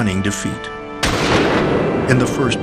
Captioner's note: gun fires